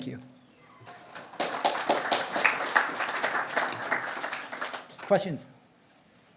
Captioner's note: applause